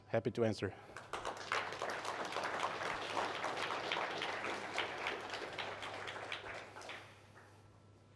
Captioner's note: applause